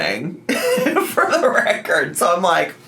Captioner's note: laughs